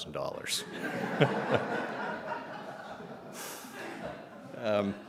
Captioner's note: presenter laughing